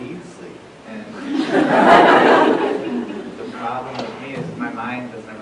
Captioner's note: laughter